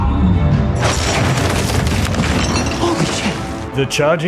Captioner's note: crab crashes